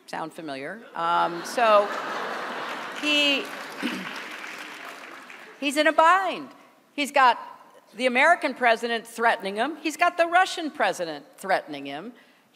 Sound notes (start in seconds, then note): 1.0 laughter; 1.8 applause